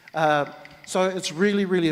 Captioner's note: clap sticks rattle